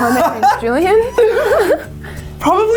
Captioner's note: laughs